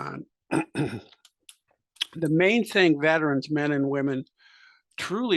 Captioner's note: cough